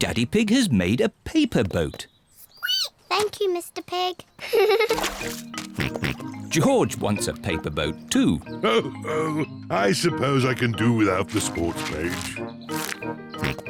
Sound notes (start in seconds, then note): 2.9 squeaks; 4.4 giggles; 4.8 snorts; 8.6 chuckles